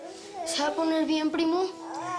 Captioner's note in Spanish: Balbuceo de un bebé; Balbuceos del bebé